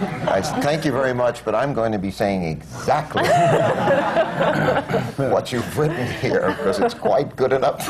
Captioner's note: laughter; laughter